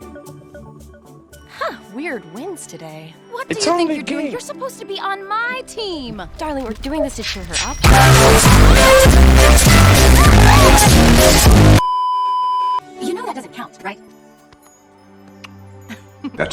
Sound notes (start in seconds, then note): 11.8 beeeeeeeeeeeep